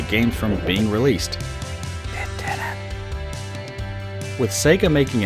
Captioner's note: whisper